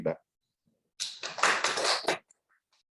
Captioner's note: audience applauds